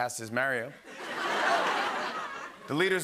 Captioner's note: laughter